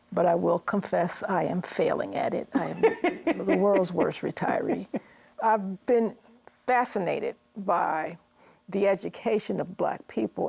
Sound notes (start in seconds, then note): 2.5 laughs